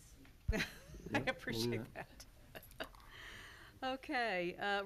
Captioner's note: laughs